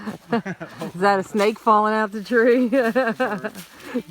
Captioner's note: laughter